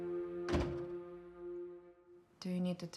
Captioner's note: dramatic orchestral music continues; door clicking